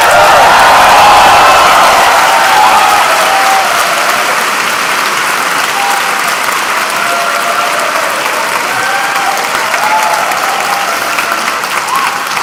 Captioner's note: cheers and Applause